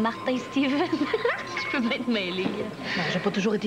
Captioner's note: Rire